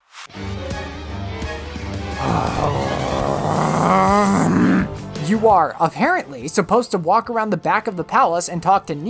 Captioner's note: sighs angrily